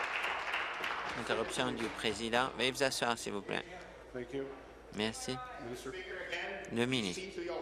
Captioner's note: applause